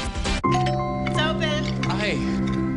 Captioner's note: door bell rings